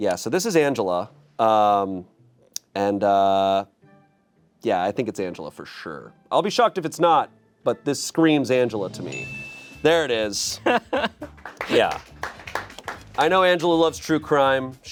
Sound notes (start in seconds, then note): 9.0 chime dings; 10.4 laughs; 10.9 audience members clapping